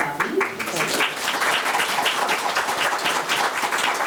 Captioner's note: members clapping